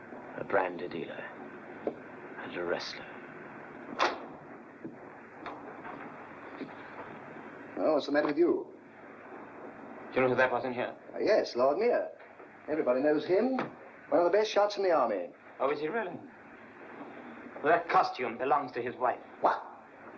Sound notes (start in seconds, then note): 3.9 door opens